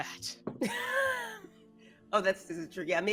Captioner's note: laughing